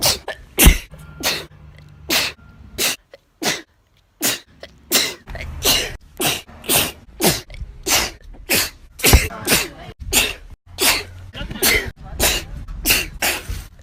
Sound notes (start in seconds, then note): 1.7 sneeze; 4.8 sneeze; 4.8 zoinks another sneeze; 7.8 achoo; 7.8 sneezes in spanish; 11.1 sneezes in american